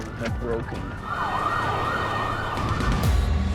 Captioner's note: sirens wailing